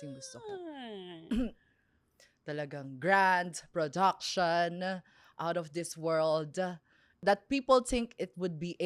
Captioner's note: sighs; clears throat